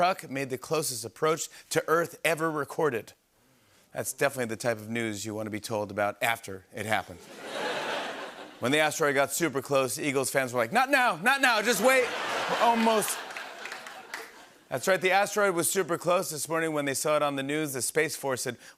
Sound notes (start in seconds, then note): 7.2 laughter; 11.5 laughter and applause